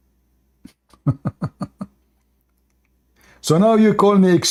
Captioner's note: Ketawa